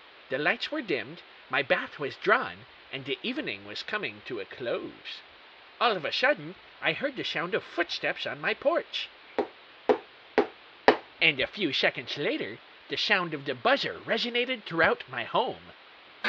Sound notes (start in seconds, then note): 9.3 footsteps